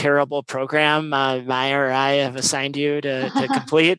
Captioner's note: laugh